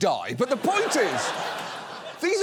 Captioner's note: audience laughs